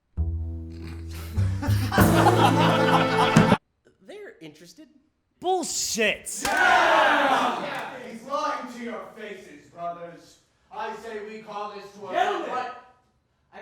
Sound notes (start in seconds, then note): 1.5 IFC members laughing